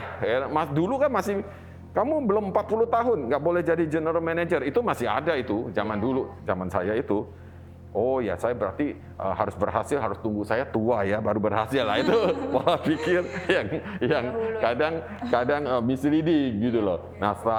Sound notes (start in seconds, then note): 11.7 laugh